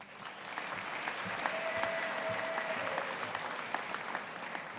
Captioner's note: audience applauding